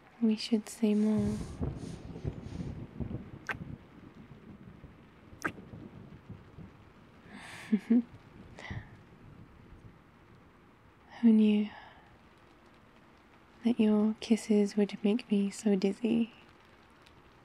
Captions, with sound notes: we should say more *kiss* *kiss* who knew... that your kisses would make me so dizzy